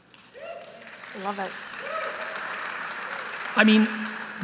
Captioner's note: audience applauding